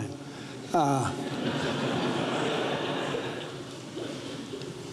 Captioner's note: audience laughs